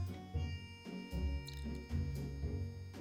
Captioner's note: liquid pouring